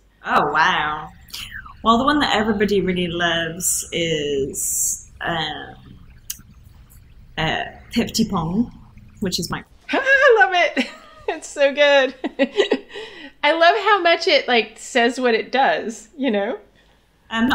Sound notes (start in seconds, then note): 8.0 speaking Welsh; 12.7 laughs